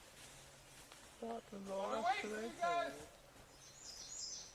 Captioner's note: indistinct chatter